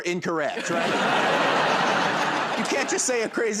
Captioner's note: laughter